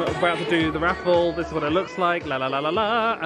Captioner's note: hums